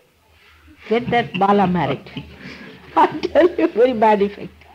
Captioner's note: laughter, She laughs